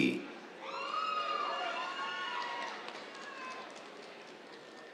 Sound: cheers, applause

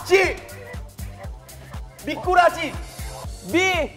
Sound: wriggle

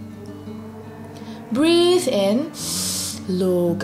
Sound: breathes in deeply

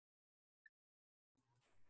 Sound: silence

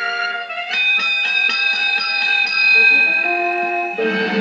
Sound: ding Ding Ding Ding; dramatic Music

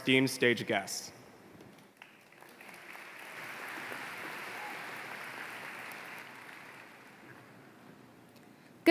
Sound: applause

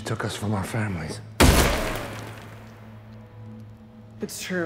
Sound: gun fires

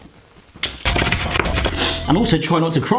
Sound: fast chopping

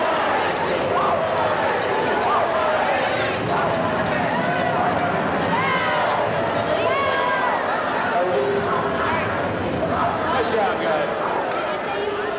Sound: cheering

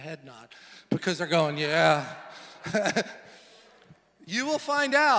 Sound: laughs

